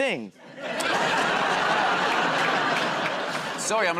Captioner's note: laughter